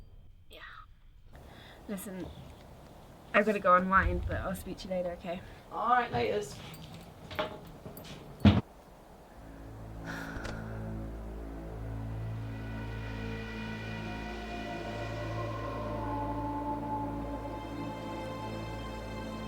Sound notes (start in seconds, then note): 9.2 tense music; 9.2 sighs; 15.4 tense music